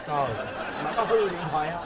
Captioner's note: laughing